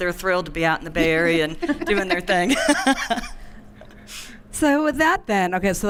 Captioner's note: laughing